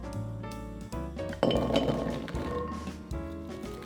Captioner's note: vegetales dropping